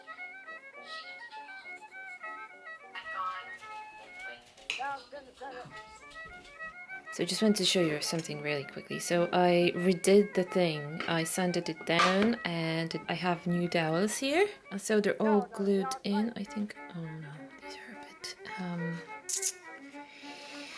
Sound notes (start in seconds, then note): 0.1 sound of a podcast playing in the distance; 19.2 tsk